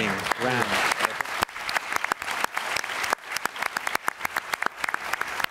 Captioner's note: applause